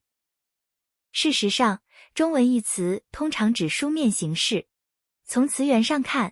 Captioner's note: 中文